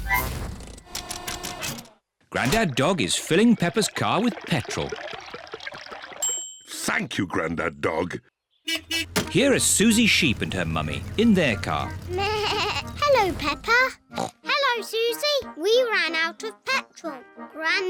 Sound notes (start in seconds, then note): 6.2 bell dings; 8.6 horn beeps; 12.6 bleats; 14.1 snorts